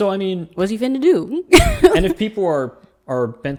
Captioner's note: laughs